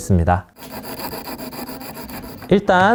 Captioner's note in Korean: 사각사각